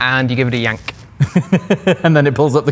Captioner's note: laughing